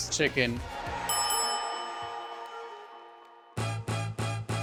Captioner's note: bell dinging; elegant music; upbeat music